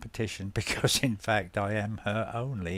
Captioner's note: laughs